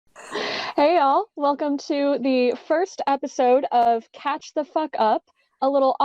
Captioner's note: laughs without context